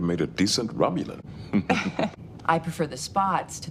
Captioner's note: more aging citizen laughter